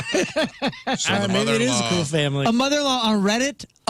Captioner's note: laughing